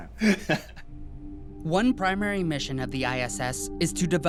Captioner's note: laughing